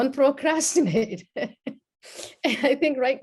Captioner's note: laughs